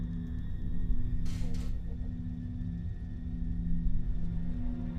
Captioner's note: refrigerator creaking